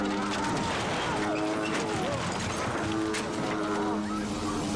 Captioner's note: plane engine revving